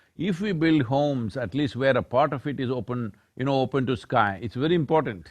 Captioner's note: none